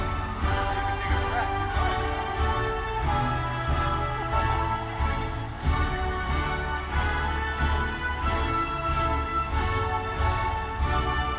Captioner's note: cheers and applause